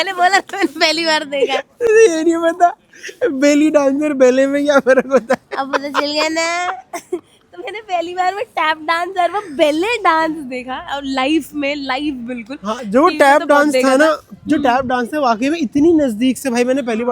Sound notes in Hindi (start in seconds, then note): 4.8 हंसी